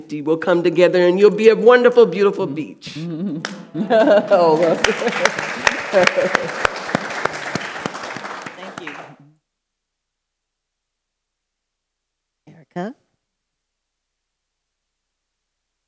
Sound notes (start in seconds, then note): 4.1 audience applauds